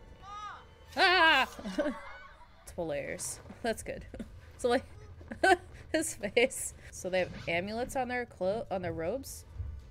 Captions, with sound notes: *MIMICKS SCREAM* Multiple layers that's good so like- *LAUGHS* his face! So they have amulets on their clothes- on their robes?